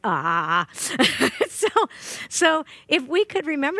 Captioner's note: laughing